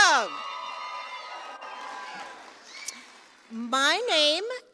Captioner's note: applause and cheering